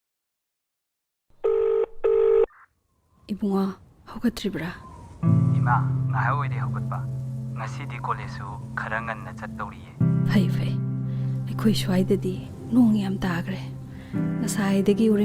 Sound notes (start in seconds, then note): 1.4 phone ringing; 3.5 woman speaking in a foreign language; 5.8 boy speaking in a foreign language; 10.4 woman speaking in a foreign language